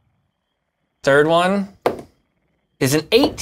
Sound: dice rolls

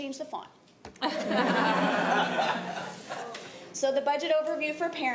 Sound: laughter

